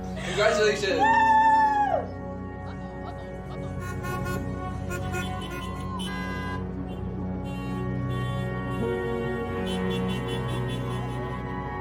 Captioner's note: car horns honking